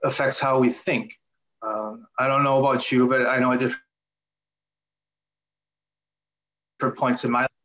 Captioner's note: audio lost